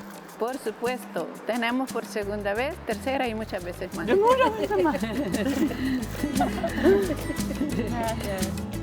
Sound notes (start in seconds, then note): 4.0 women laugh; 6.0 upbeat music